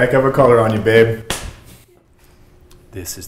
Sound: slap

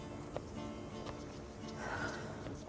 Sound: Eloise sighing; romantic music

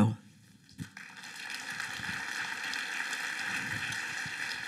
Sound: applause

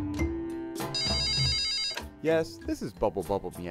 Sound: phone ringing

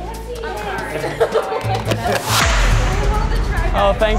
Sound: hostesses laughing

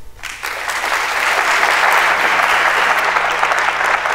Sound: applause

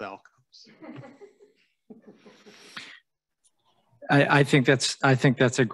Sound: panelist chuckling

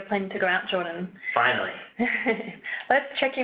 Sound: laughs

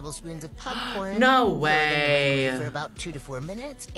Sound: gasps

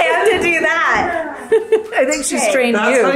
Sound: laughing

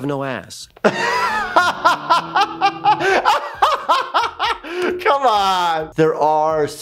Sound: laughs

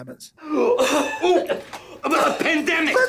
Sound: person choking

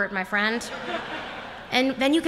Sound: laughter

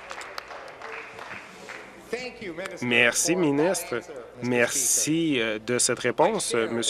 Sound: applause

